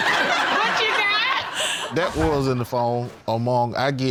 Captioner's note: all laughing